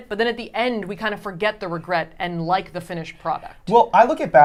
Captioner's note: none